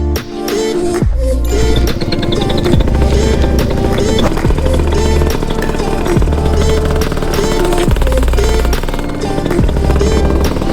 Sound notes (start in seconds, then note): 1.7 engine rumbling